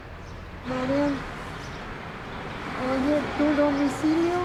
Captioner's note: traffic noise